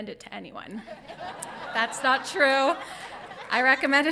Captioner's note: audience laughing